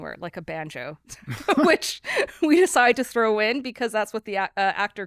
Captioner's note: laughs